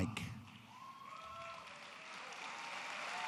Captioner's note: applause